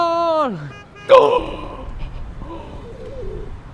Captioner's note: gasps